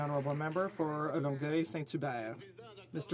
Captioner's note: some Applause